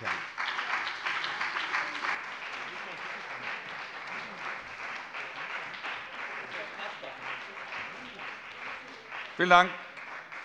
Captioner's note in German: Beifall bei der CDU und dem BÜNDNIS 90/DIE GRÜNEN